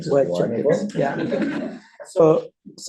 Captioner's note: laughter